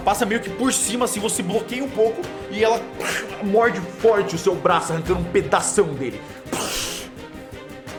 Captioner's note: pshh